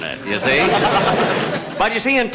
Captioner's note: audience Chuckling